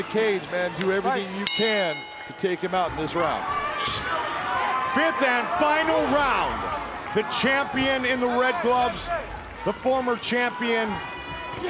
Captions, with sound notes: (bell rings) Do everything you can to take him out in this round. - Fifth and final round. The champion in the red gloves.